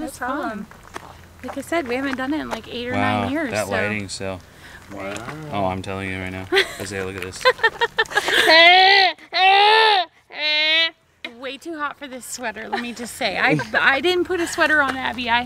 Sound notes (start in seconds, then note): 7.3 laughing